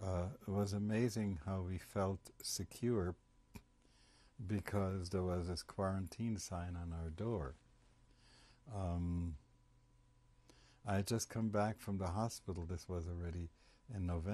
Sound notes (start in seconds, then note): 7.4 pauses for 3 seconds